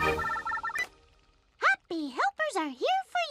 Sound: cell phone rings

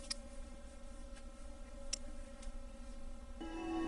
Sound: camera noises

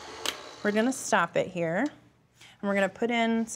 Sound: mixer stops

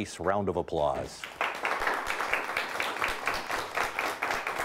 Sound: audience clapping

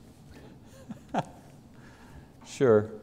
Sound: laughs

